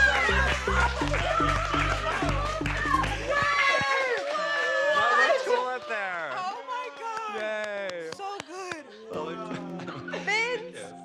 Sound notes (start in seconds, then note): 0.0 cheering and indistinct chatter; 2.7 indistinct chatter